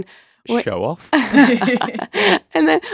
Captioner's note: all laugh